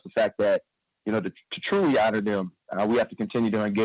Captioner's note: none